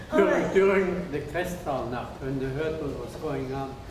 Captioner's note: speaking foreign language